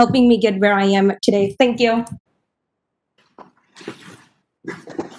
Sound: clapping

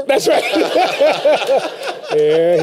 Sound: laughter

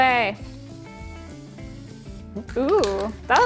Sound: spray can hisses; upbeat music; can rattles

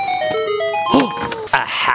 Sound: video game sound effect

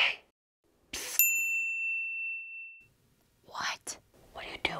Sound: bell dings

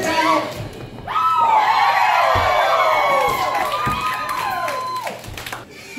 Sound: crowd cheers

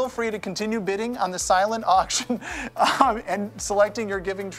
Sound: laughing

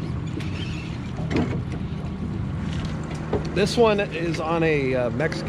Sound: boat engine running

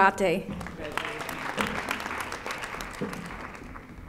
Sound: audience applauding

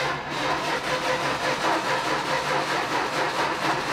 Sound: ignition stutters

